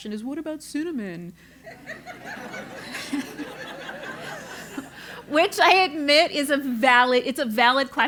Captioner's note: laugh